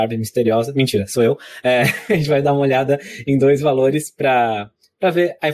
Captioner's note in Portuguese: risos